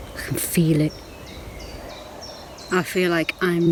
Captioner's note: birds chirping